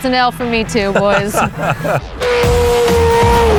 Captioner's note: both laughing